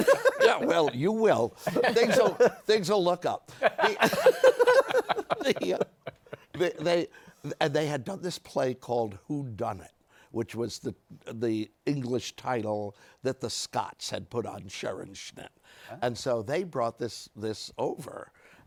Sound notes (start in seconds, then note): 3.5 laughter